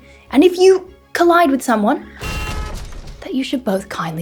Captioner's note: crash